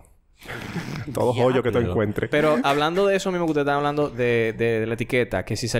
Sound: laughs

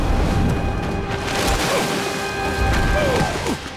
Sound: grunting

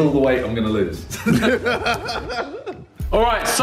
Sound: laughs

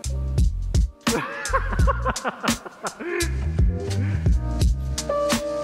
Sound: laughing

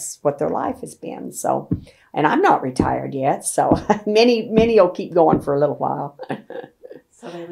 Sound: laughs

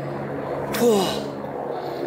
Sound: sigh of relief

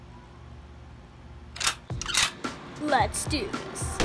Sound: gun cock

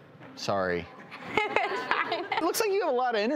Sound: laughs

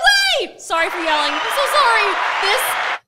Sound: cheering sound

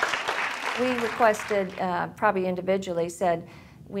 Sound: cheers and applause

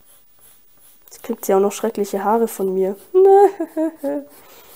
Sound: cries

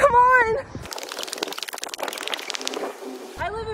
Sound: tape fast forwarding

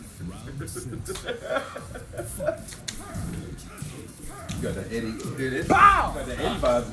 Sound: laugh

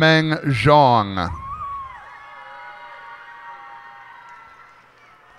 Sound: cheers and applause

